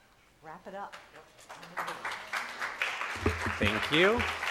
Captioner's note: audience applauds